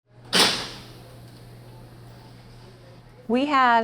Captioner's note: lock clanging